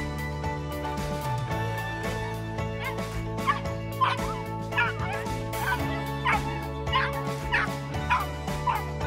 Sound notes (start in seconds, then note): 3.2 dog yipping